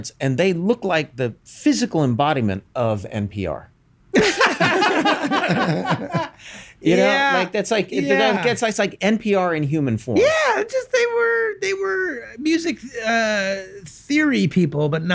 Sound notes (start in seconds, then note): 4.1 all laugh